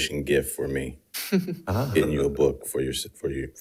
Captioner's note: participants laughing